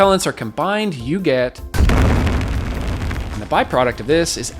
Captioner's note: rocket booms